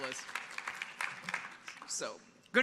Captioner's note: audience applauding